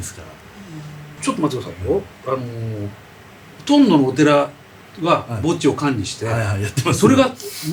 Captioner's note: laughs